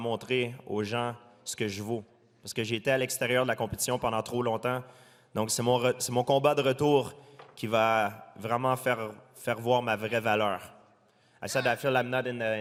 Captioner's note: speaking french